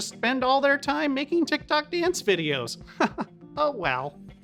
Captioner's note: chuckling